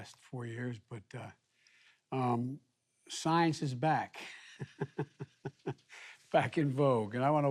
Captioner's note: laughs